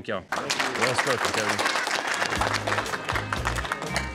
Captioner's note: applause